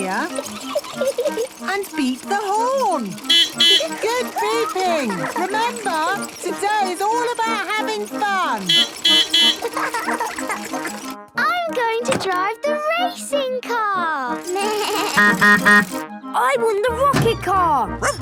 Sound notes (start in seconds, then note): 0.0 giggling; 2.9 beeping; 8.2 beeping; 8.2 laughing; 14.6 bleating; 14.9 honking; 18.0 barking